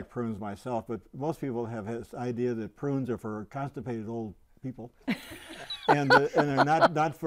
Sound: laughing

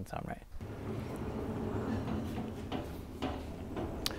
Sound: saw rolling

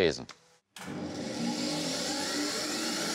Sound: machine starts

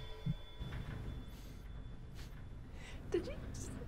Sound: snif

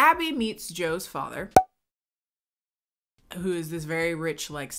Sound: graphic popping

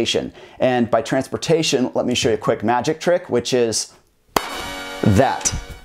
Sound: clap

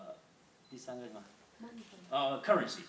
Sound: speaking foreign language

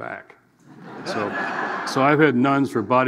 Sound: audience laughing

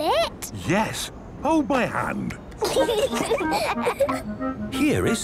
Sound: children giggling

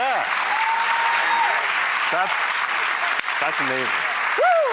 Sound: audience applause

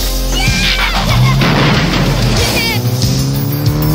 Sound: laughing

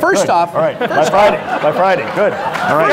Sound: audience laughs

